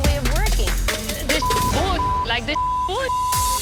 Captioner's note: beep